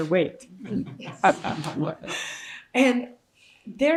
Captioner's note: participants and audience laughing